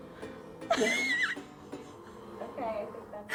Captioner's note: laughing